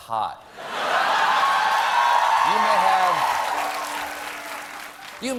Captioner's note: laughter